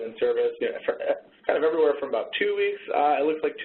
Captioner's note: laughs